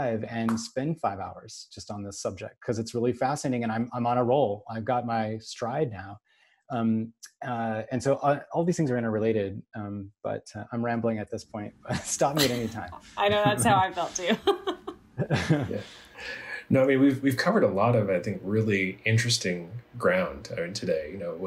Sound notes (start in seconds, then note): 12.2 all chuckle; 15.2 laughs